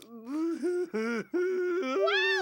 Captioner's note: sobbing